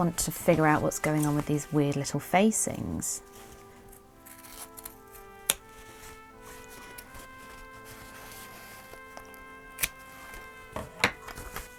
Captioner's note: scissors snipping